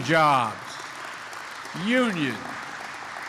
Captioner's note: applause